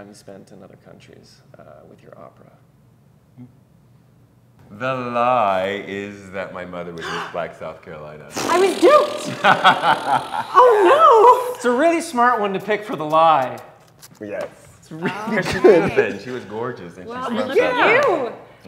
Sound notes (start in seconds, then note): 8.3 blows raspberry; 9.2 laughs